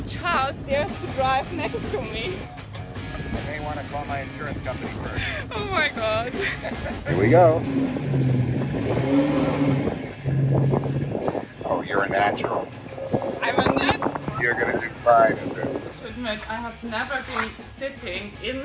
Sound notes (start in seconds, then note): 6.3 chuckling; 8.7 car revving